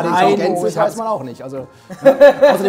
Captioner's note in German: Stimmengewirr; Lachen